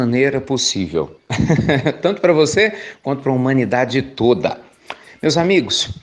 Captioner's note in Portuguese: Risos